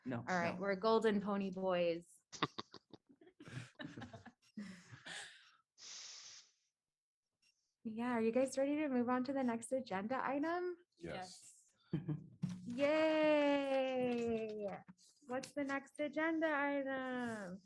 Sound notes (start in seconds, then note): 3.4 laughter